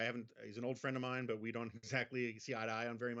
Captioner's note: Jonah laughs